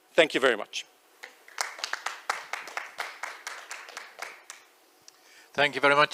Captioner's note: applause